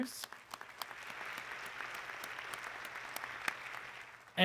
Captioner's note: audience clapping